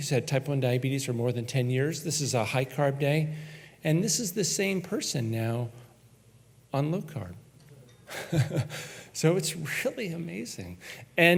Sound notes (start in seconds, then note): 8.0 chuckles